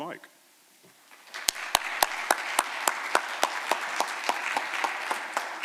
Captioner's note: applause